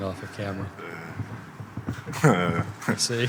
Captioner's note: laughs